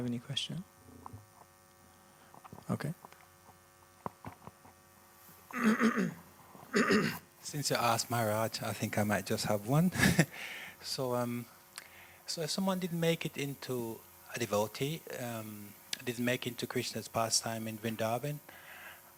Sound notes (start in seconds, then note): 9.9 laughter